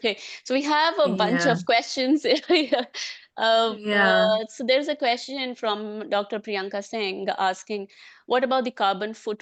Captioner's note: laughs